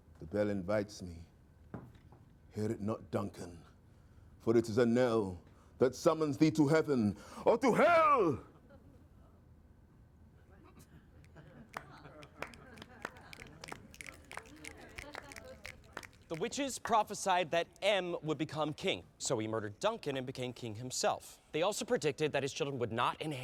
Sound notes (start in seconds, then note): 11.6 clapping